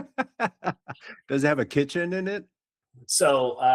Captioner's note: laughing